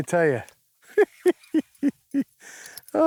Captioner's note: laughing